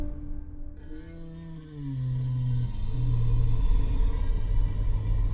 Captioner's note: Dweller snoring